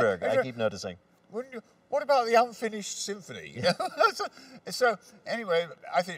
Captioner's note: laughs